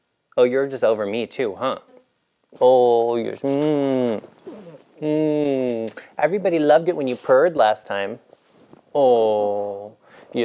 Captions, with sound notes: Oh, you're just over me too, huh? Oh, yes. (kissing) Everybody loved it wen you purred last time. Oh.